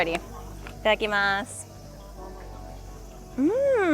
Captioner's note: speaks foreign language